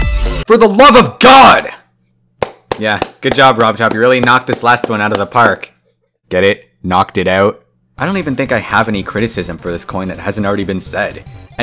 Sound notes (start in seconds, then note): 2.4 clapping